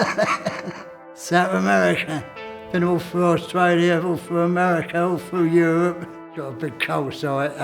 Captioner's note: laughs; laughs